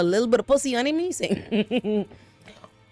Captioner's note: laughs